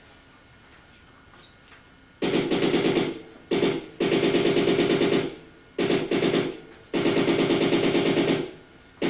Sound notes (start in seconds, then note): 2.2 sustained machine gunfire